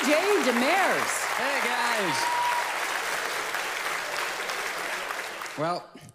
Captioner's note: audience applauds